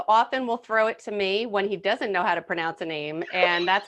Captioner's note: laughing